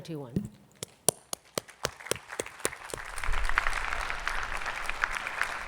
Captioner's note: attendees clapping